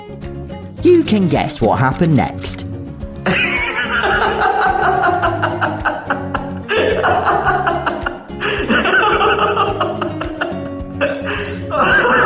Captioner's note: unhinged laughter